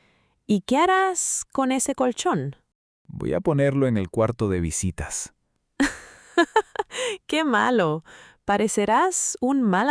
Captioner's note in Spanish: risas